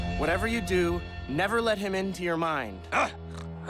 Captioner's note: chewing